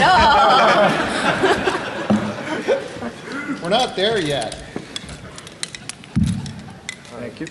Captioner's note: laughter